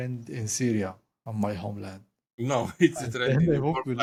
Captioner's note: laugh